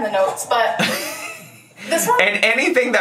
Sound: laughs

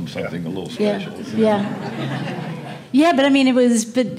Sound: audience quietly chuckles

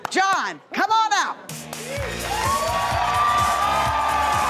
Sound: crowd cheering

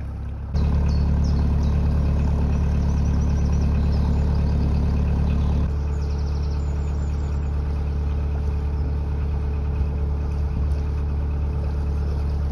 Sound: birdsong

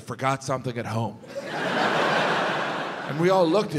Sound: audience laughs

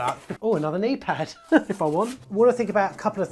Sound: laughs

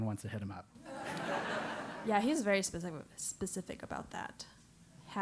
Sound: laugh

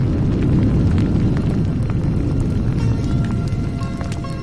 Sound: fire crackling; indian sitar music

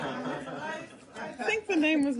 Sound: laughter

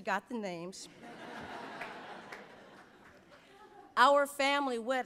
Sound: audience laughs

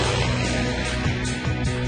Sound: airplane engine revving

